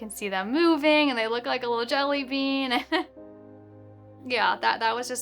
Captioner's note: chuckles